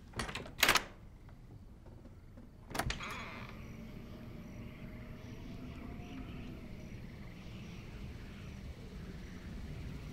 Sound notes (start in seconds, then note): 0.1 lock clicking; 2.6 door squeaking